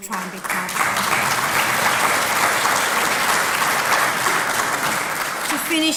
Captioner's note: applause